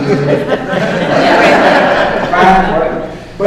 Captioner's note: laughter